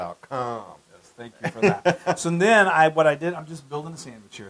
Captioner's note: laugh